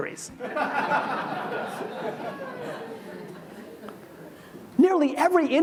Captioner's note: audience laughs